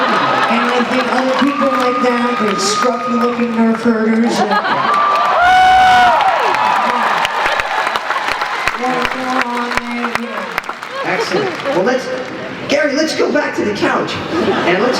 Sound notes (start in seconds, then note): 0.0 laughter; 6.6 applause